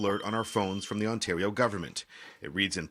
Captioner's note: alarm sounding